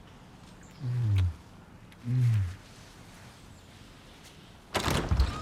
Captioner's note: Wags moans softly; door clatters